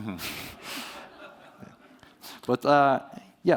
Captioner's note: laughter